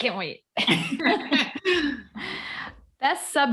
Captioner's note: all chuckle